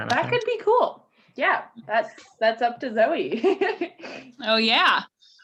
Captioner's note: laughing